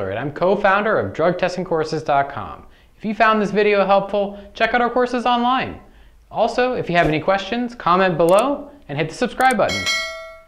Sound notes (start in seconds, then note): 9.6 bell chiming